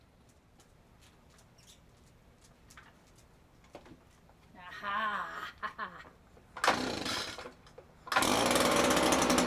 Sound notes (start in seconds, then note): 4.6 maniacal laugh